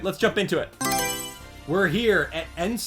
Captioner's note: Mario Selection Sound